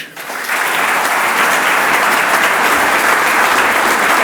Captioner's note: audience applauds